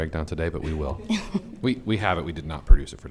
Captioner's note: group laughing